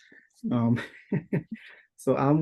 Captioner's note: laughing